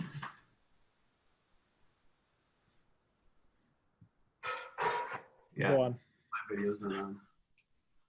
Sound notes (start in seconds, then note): 0.1 bang; 4.4 clanking